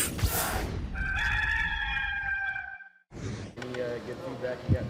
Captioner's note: rooster crowing